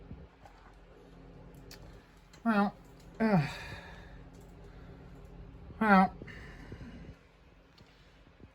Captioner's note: stammers